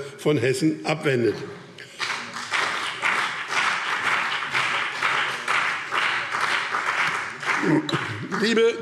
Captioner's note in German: Beifall BÜNDNIS 90/DIE GRÜNEN und CDU